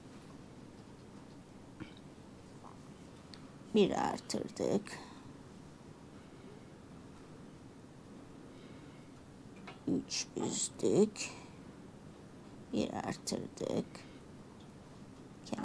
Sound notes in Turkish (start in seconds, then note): 1.8 boğazını temizler